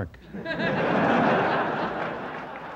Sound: laughter

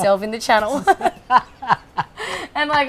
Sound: laughs

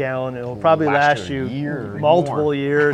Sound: laughs

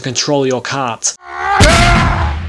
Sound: fading screaming; screaming

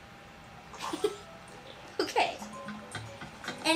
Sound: chuckles

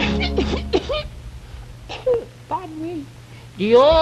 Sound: coughing noises

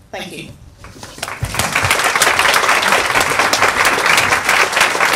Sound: people applaud

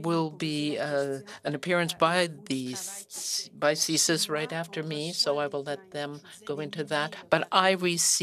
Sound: speaking French

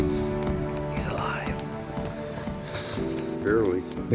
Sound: whispers

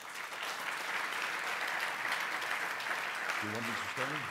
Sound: applause

